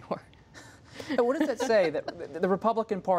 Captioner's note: laughs